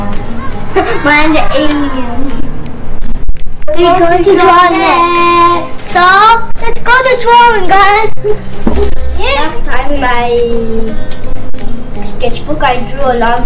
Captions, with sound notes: mine.. an alien (giggling) We're going to draw next!! so, lets go to drawing guys last time my.... sketchbook, I drew a lot